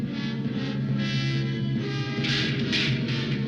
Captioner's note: lamp smashing